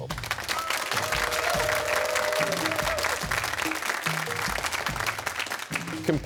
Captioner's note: cheers and applause